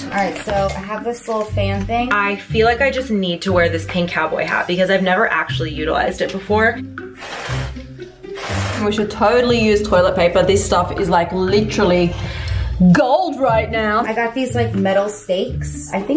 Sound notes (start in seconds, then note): 6.9 blowing air